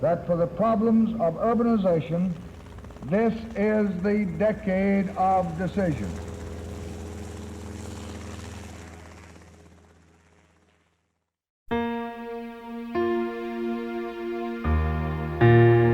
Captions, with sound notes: that for the problems of urbanization, this is the decade of decision. (helicopter whirls) (gentle music)